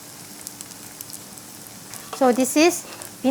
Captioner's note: sizzling sound